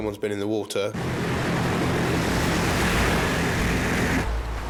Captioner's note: waves crash